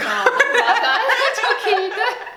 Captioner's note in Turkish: gülüşmeler